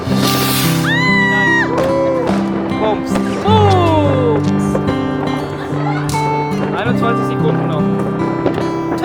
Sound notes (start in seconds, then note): 0.7 scream; 6.7 speaking German